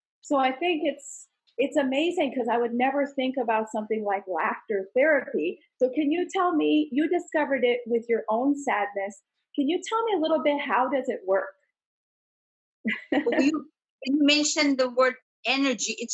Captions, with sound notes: so I think it's amazing, 'cause I would never think about something like "laughter therapy." So can you tell me, you discovered it with your own sadness. Can you tell me a little bit how does it work? (laughs) - You mentioned the word energy.